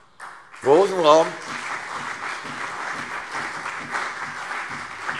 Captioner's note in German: Beifall CDU und BÜNDNIS 90/DIE GRÜNEN